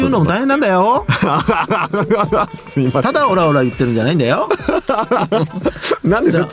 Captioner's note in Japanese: 笑い